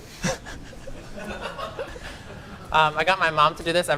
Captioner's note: laughter